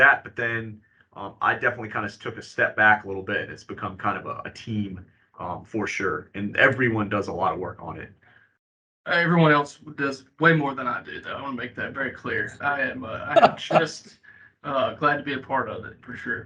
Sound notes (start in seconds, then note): 10.6 laughing